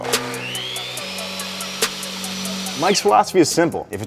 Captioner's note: sawzall motor running